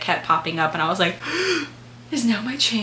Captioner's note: gasp